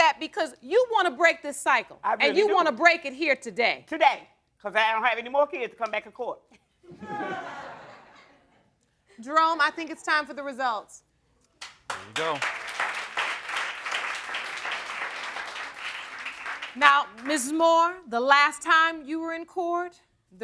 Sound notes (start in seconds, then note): 6.9 audience laughs; 11.6 audience applauds